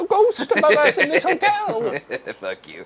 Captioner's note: laughing